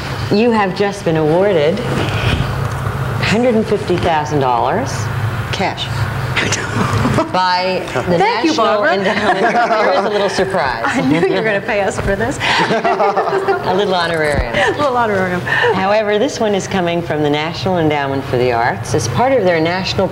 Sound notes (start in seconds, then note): 12.8 laugh